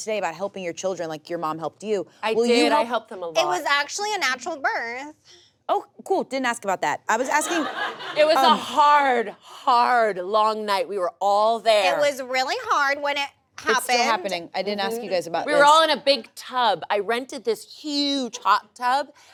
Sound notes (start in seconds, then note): 7.4 audience laughs